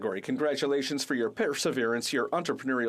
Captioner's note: speaking French